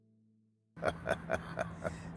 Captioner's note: chuckling